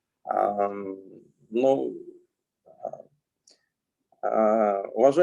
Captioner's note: speaking Russian language